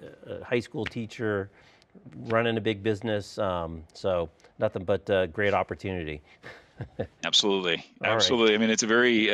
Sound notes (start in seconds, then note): 6.4 laughs